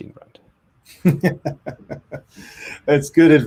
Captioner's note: laughs